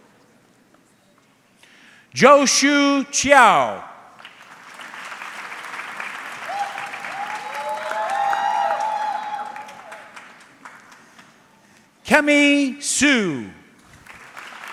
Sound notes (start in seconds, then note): 4.1 audience clapping; 7.9 audience cheering